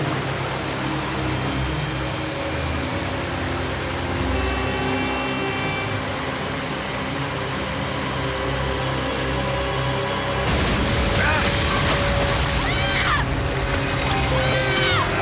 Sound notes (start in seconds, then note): 4.0 horn blows; 11.0 yells